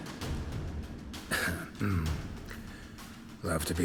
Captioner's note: clears throat